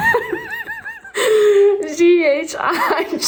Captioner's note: laughing